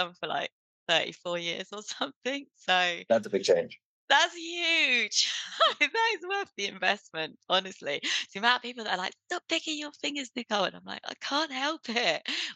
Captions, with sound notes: for like 34 years or something. So. That's a big change. That's huge. (laughs) That is worth the investment, honestly. To about people that are like, "Stop picking your fingers, Nicole." And I'm like, "I can't help it."